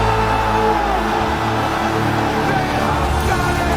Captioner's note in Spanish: el público vitorea; música dramática